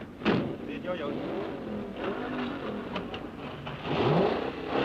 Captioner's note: engines revving